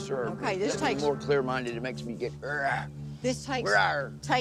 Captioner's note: growls